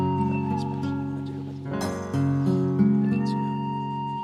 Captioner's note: group chattering